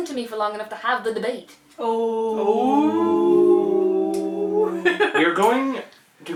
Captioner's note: collective 'Ooh'ing